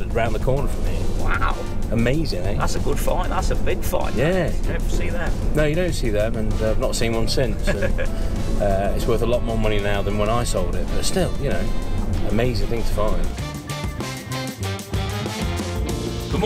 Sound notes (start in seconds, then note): 7.6 laughs; 13.4 upbeat music